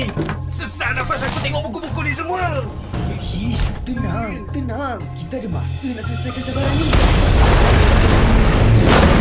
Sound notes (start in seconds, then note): 6.8 loud rumbling